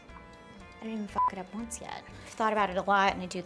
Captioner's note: beep